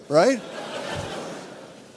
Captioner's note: audience laughs